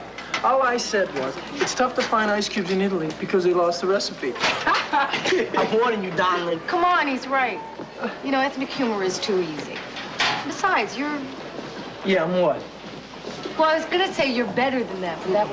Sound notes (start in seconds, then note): 4.6 laughs